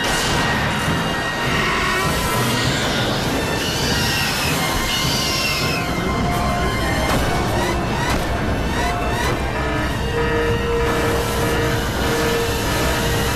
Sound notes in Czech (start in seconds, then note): 0.3 napjatá hudba pokračuje; 3.9 dinosauří skřípění; 7.9 ječící alarmy